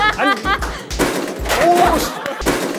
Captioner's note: slam